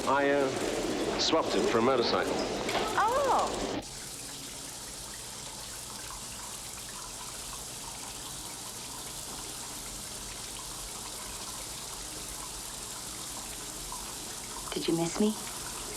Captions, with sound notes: - I swapped it for a motorcycle. - Oh! (water trickling) Did you miss me?